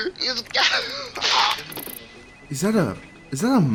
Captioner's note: dying noises